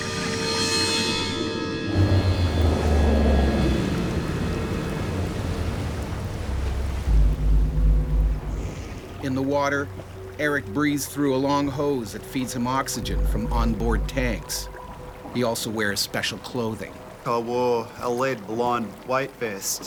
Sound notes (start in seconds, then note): 0.3 tense clang; 3.0 boat motor rumbles